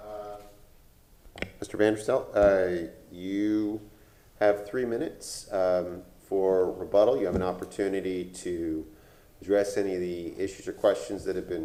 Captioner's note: off microphone